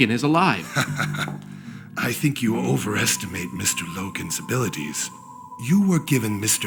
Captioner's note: laughs